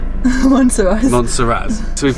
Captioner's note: giggling